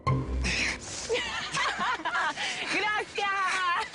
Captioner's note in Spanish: Risas